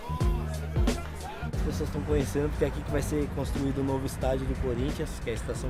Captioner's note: speaking portuguese